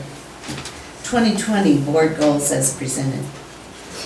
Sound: none

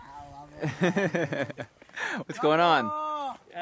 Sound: laughing

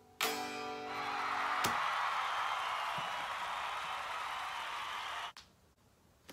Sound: audience applauding the fantastic performance

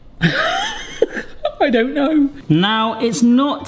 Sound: laughs exasperatedly

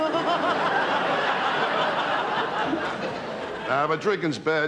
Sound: audience laughter

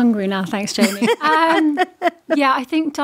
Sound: all laughing

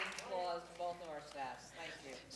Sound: applause

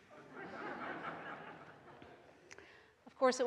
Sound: audience laughs

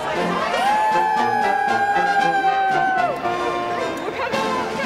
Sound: applause

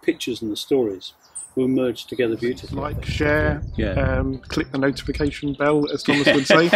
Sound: laughing

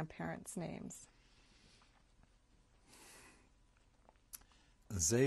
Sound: hebrew

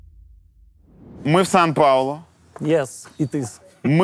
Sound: in broken English

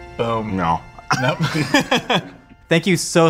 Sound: both laughing

